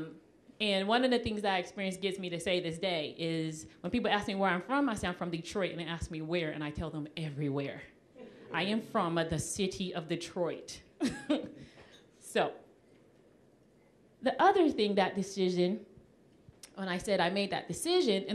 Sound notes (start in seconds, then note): 7.7 audience chuckling; 11.0 chuckling